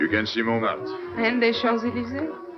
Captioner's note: French